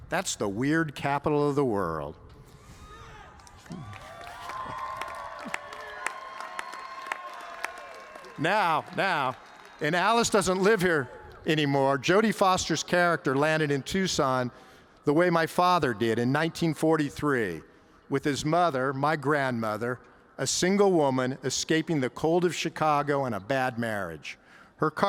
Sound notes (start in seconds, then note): 2.8 cheers